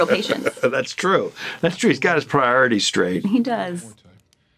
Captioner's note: laughs